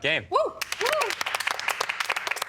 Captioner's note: cheering